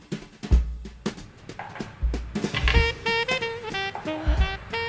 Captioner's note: cups clinking